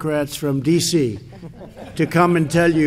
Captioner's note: laughter